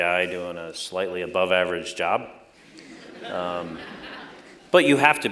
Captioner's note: laughter